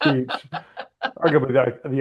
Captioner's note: laughing